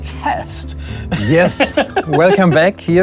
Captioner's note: laughs